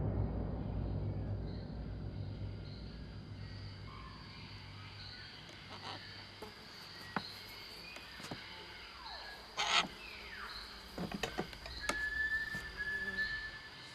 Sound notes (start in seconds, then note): 0.2 jungle animals; 5.4 parrots squawking